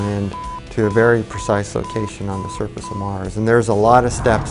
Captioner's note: beep sounds